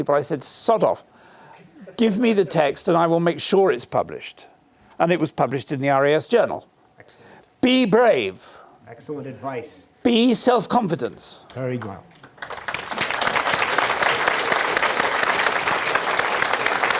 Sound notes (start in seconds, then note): 12.2 applause